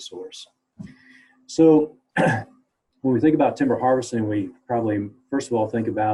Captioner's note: cough